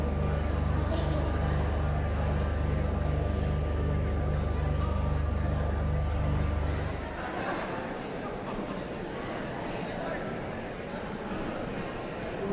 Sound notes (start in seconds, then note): 0.1 pensive organ music continues; 7.0 audience chattering continues